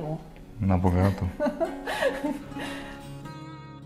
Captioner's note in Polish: śmiech